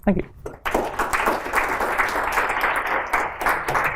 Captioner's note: applause